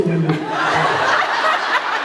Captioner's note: laughs; laughs, applauds